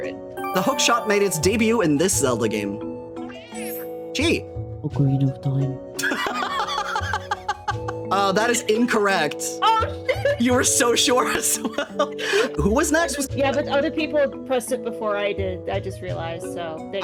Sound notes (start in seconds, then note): 4.9 ASMRs Overconfidently; 6.0 laughing